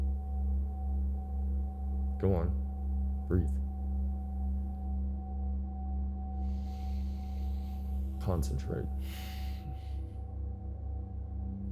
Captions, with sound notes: Go on. Breathe. [INHALES DEEPLY] Concentrate. [EXHALES]